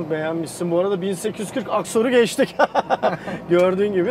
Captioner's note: laughings